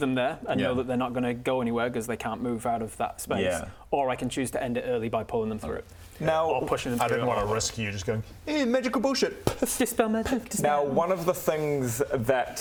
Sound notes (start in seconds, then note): 9.2 poof!